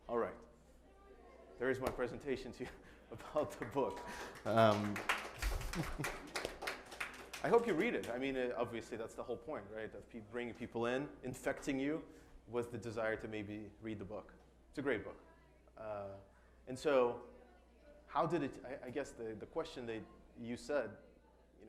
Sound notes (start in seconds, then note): 3.2 group applauding; 5.4 chuckles